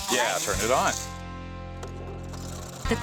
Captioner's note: cutter starts up